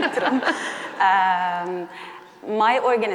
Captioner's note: chuckles